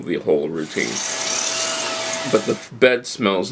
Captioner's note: vacuuming